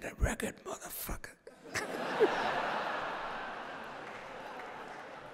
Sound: laughter

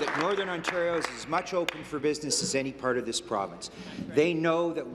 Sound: applause

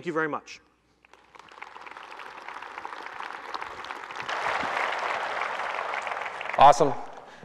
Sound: applause

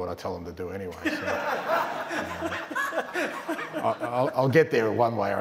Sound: laughter

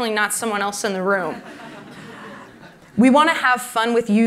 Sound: laughter

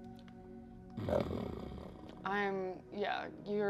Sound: Tracker growling

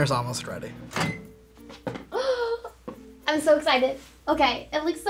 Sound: microwave beeps; gasps

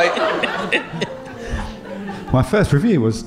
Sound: chuckling

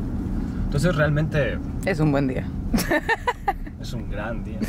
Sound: mexican laughs

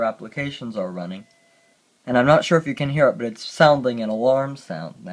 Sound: alarm sounds

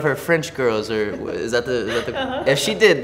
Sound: laughs

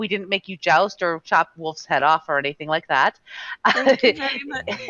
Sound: laughing

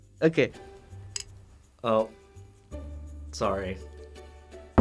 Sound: coin clinks

